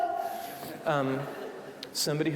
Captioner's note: audience laughing